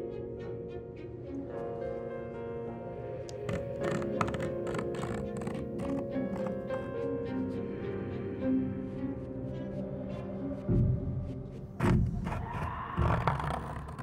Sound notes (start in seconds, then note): 3.3 scratching; 10.9 suspenseful music